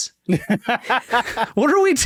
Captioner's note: laughing